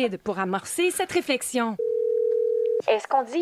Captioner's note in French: sonnerie de téléphone